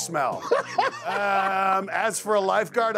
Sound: Akbar laughs

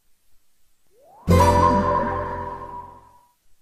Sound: modernized console startup chord

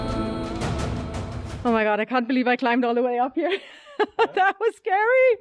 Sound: laughing

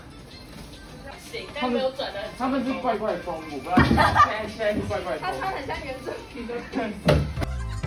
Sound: chatter

